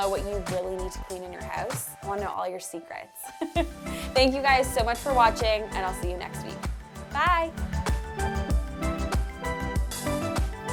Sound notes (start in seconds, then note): 3.6 laughing; 8.0 upbeat music